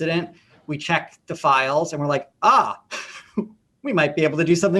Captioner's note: laughs